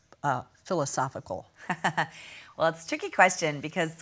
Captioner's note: laughs